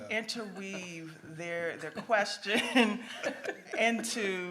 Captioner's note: laughs